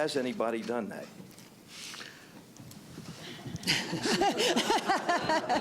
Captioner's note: laughter